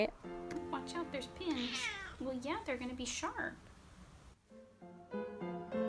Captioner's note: meows